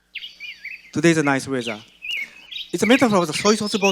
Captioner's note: birds chirping